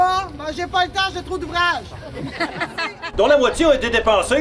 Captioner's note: laugh